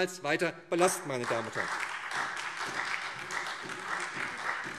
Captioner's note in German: Beifall SPD und vereinzelt Freie Demokraten